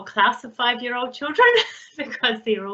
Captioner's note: laughs